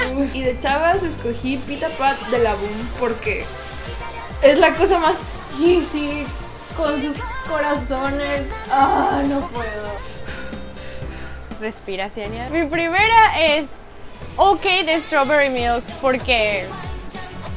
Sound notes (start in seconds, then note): 8.4 breathes in and out